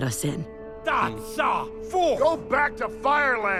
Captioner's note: shouts in firish